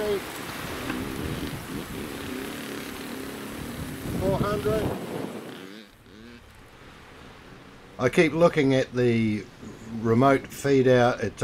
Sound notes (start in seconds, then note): 0.0 motorbike engine roaring; 5.6 motorbike engine revving